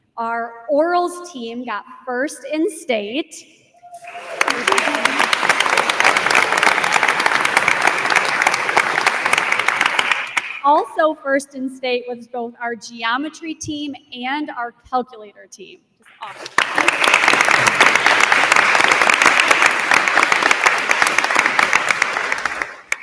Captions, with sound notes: Our orals team got first in state. (attendee cheers) (attendees applauding) Also first in state was both our geometry team and our calculator team, just awesome. (attendees applauding)